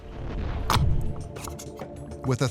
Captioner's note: gelatin squelching